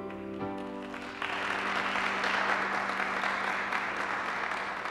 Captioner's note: audience applauding